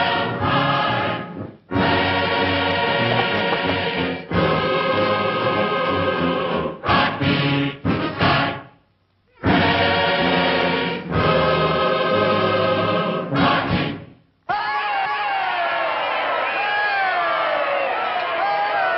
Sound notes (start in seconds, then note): 14.5 crowd cheering